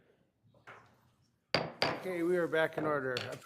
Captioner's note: gavel bangs